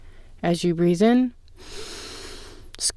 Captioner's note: inhale